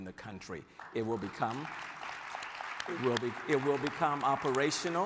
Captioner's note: audience applauding